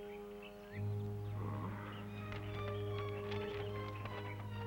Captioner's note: groaning